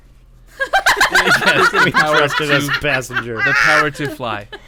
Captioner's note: cackling laughter